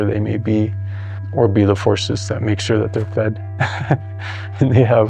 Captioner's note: laughs